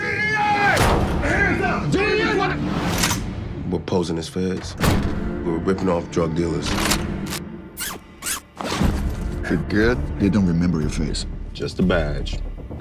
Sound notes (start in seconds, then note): 7.7 zip ties zipping